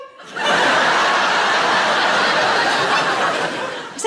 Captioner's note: laughing